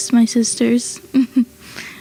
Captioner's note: laughs